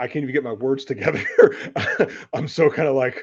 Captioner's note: laughter